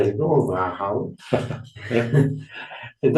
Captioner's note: laughing noises